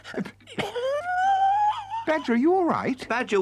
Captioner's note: Badger wheezes